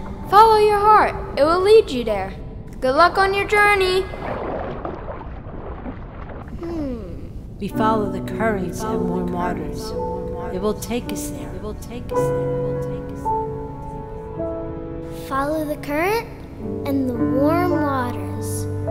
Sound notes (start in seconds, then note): 7.6 echoing voice; 12.5 soft piano music